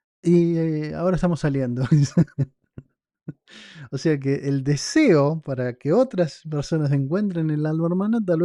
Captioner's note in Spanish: risas